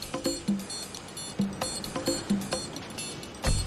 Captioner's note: beeping